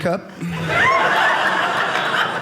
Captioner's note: audience laughing